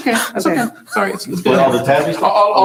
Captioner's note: soft chuckling